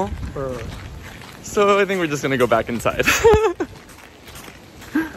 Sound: laughs

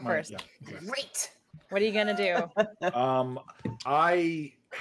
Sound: laughing

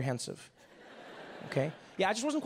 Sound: audience laughing

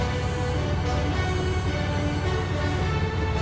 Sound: none

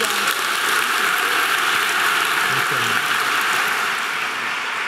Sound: audience applauding

